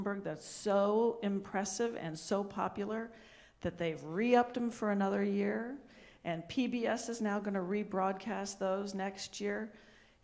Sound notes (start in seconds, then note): none